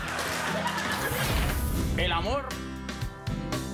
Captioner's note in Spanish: Risas del público